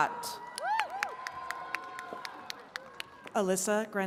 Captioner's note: attendees cheering and clapping